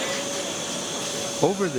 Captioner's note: air hissing; motor whirring